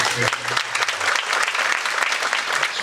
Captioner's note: audience applauding